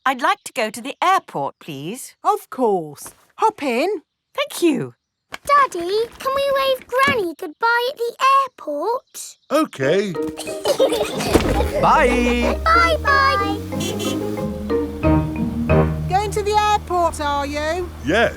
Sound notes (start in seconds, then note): 10.2 laughing; 13.9 horn honking